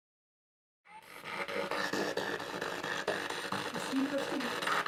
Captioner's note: noise of the spiritbox in the background